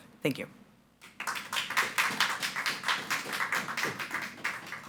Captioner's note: audience applauding